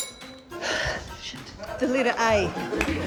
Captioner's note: sighs